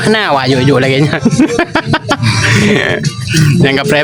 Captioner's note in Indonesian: tertawa